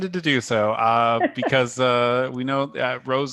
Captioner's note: laughter